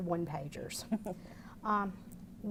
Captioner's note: laughter